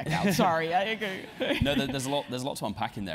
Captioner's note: laugh